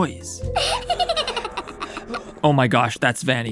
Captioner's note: daycare attendant giggles horrifyingly